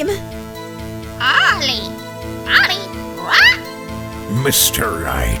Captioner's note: squawk